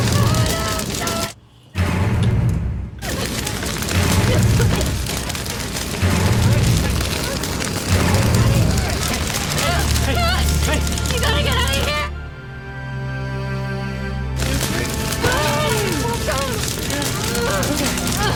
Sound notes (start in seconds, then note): 3.0 coughing; 5.6 whimpers; 12.6 somber music